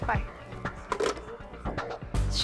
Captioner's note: clinking